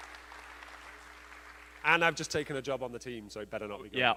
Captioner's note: applause